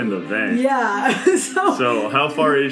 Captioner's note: laughs